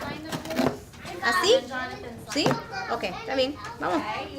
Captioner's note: teacher In Spanish